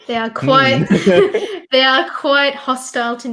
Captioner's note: both laugh